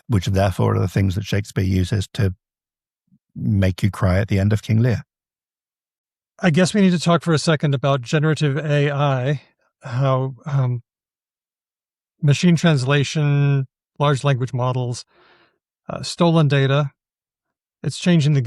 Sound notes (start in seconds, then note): none